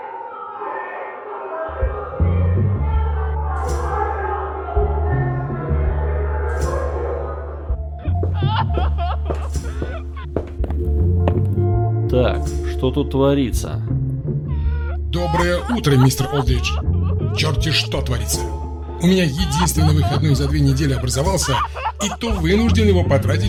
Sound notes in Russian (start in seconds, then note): 0.1 крики с коридора; 8.0 женский плач навзрыд; 9.2 шаги; 14.6 женский плач навзрыд